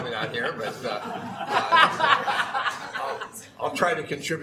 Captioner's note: laughing